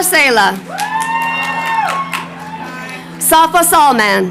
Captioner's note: crowd cheering